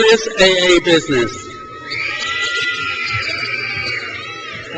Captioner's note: crowd cheers